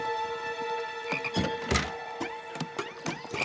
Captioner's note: frog croaks